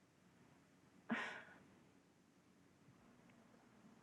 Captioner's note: sighs